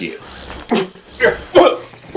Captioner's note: hologram crackles